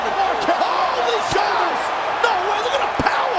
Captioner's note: crowd roaring